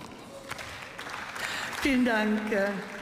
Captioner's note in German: Beifall